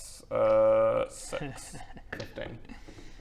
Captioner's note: worrying DM giggle